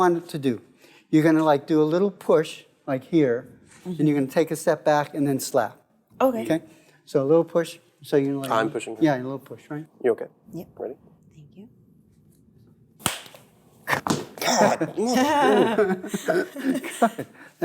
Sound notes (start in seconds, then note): 13.0 slapping sound